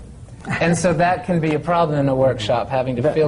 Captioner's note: laughter